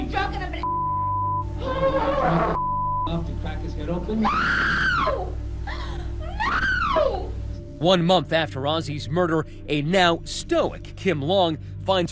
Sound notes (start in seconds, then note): 4.2 screaming